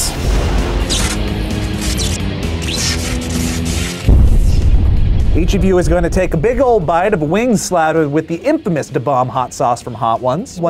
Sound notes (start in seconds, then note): 0.3 electricity crackles; 0.3 upbeat music; 4.0 explosion echoes